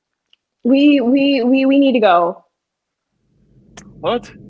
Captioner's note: faint, low whooshing sound, continues under scene